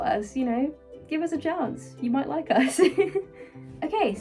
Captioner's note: laughing